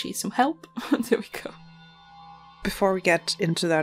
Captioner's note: laughs